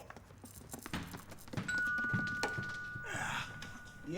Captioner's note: doorbell rings